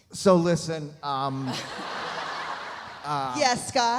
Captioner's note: audience laughs